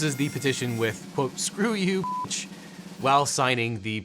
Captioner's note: beep